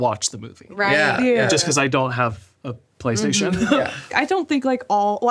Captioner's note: laughs